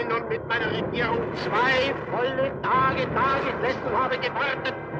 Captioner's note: man speaking German